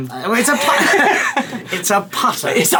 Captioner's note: both laughing